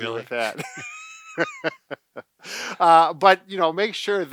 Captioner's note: both laughing